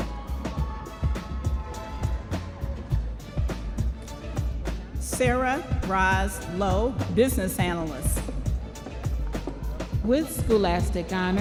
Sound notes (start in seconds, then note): 4.1 audience members cheering